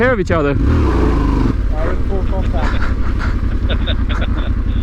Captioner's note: sound of wheelspin and dirt spraying